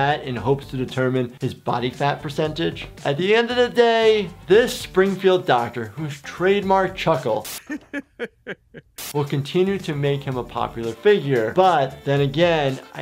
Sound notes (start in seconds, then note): 7.2 static crackling; 7.4 doctor laughing; 8.9 static crackling